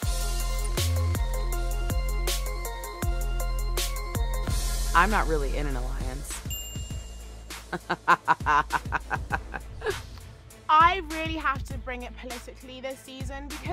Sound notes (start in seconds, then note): 0.2 upbeat music; 7.7 laughing